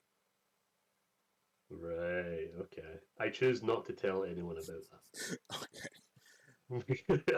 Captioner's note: laughs